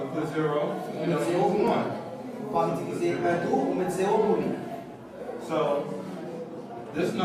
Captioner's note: speaks softly